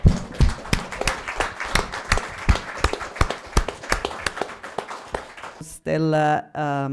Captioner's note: applause